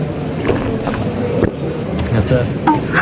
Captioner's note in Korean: 꼴깍